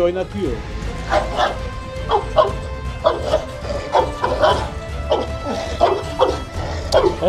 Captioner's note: barking sounds and tense music